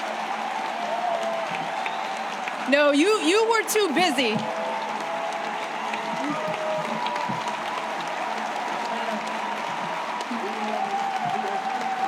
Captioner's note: applause